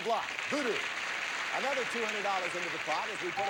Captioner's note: audience applauding